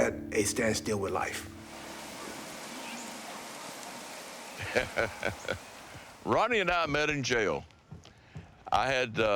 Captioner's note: laugh